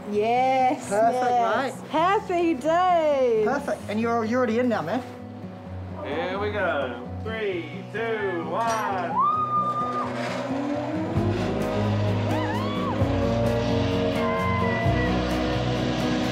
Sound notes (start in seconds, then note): 8.7 shrieks; 9.0 zipline whirrs